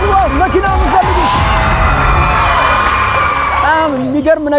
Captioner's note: scream